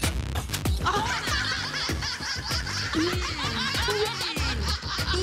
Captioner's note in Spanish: Risas